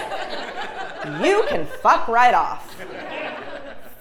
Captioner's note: laugh